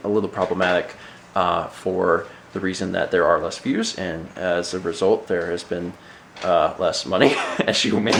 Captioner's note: laughs